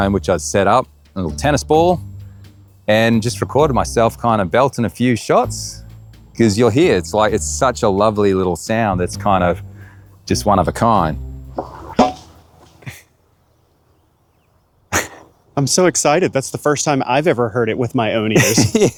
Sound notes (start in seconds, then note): 11.5 ball reverberates; 18.3 laughing